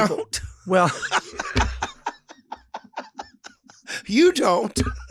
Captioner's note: both laugh